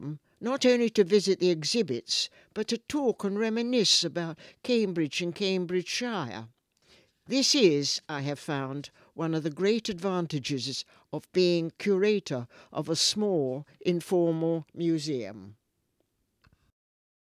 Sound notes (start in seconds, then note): none